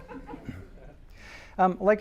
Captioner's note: laughter